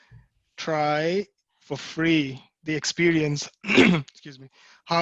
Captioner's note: cough